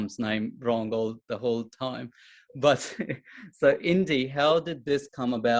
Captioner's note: chuckles